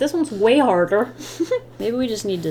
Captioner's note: laughs